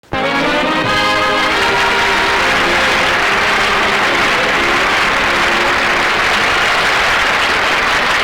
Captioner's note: audience Applause and Intro Music